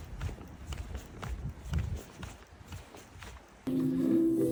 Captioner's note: hasty steps showing how late I am